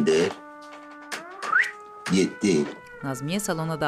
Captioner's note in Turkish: Islık sesi